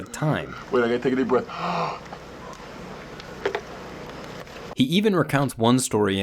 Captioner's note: inhaling